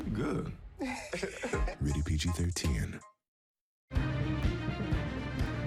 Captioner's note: laughs